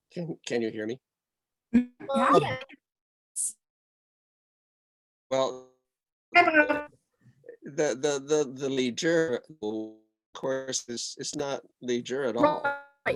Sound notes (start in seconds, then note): 2.4 audio distortion